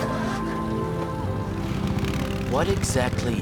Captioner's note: engine turning